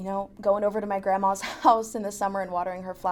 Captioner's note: laughs